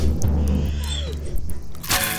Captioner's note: gasping